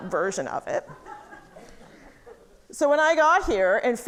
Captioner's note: audience laughing